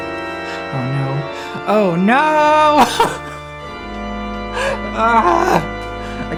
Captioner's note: dramatic organ music; laughing